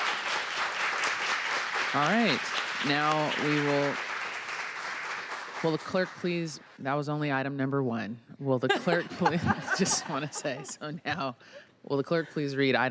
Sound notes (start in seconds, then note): 0.0 applause; 11.1 laughter